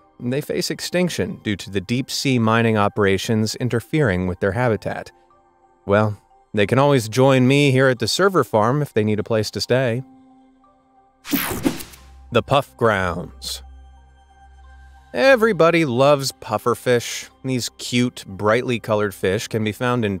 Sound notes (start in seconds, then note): 11.3 digital buzzing